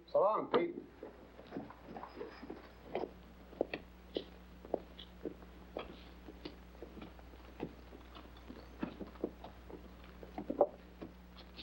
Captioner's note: bodies shuffling out